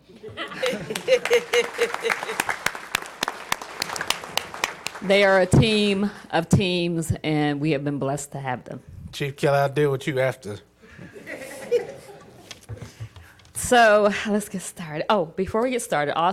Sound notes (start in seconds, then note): 3.9 applause